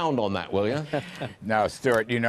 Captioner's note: laughter